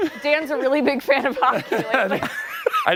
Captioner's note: laughter